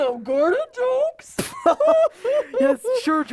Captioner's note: laughing